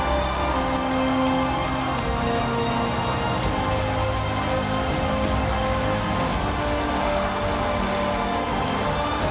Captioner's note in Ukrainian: оплески